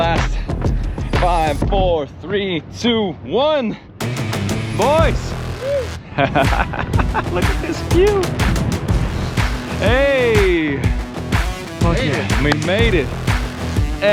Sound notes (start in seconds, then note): 6.1 crew cheering; 7.0 cheering